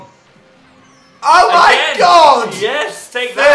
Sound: screams

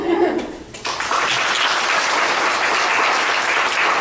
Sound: clapping

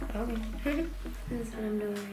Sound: laughs

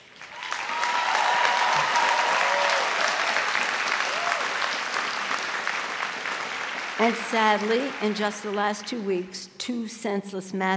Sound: applause

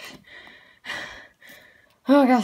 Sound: breathe

